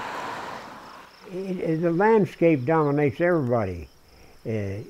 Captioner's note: voiceover